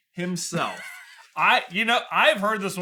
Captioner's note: laughter